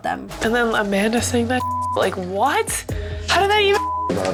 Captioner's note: beep